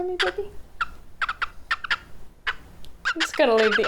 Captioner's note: bird coos